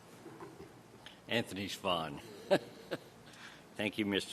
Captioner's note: laughs; laughs